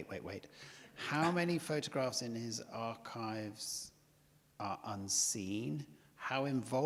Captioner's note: chuckles